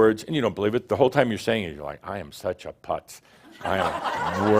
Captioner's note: laughter